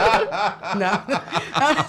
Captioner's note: laughing